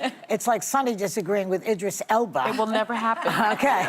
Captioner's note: laughter